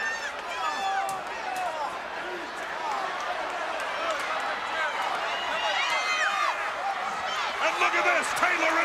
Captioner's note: crowd chatter